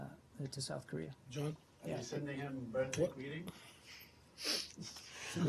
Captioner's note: laughter